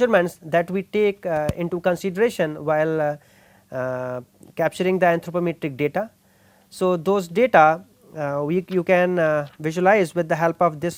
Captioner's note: static